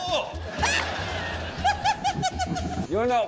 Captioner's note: laughs